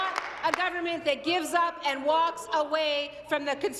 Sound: applause

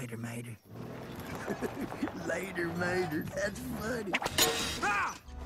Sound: laughing

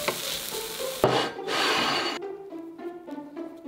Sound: bowl sliding

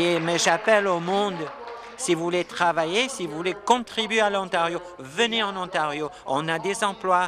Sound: applause

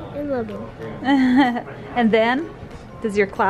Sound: laughs

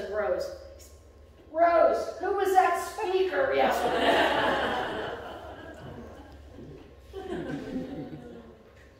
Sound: laughter

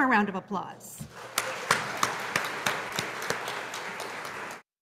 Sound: audience applauding

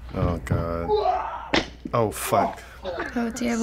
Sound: dull thud

